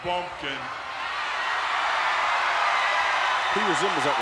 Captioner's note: audience cheering